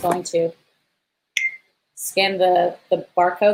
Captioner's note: beep